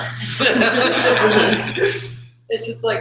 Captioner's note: laughter